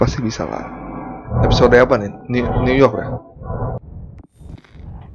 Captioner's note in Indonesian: RIP mic in background